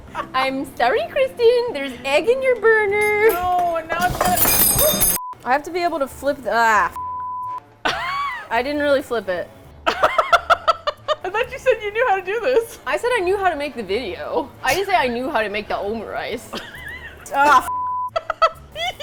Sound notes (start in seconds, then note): 0.3 high-pitched voice; 3.0 metal utensil clatters on the floor; 7.8 laughs; 9.8 laughs; 16.5 laughs